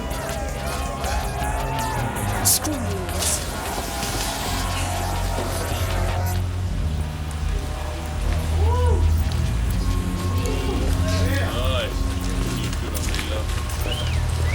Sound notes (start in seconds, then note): 10.2 men catcalling